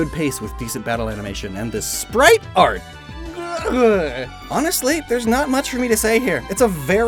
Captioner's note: verbal keysmash